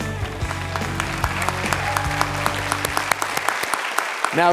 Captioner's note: applause